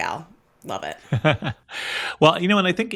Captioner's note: laugh